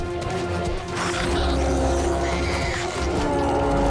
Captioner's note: bellows